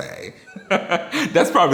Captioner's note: laughs